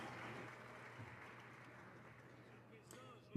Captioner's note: some Applause